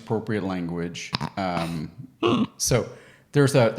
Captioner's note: chuckles